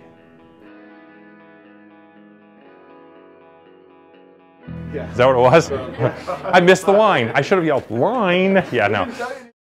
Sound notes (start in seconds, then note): 9.2 laughs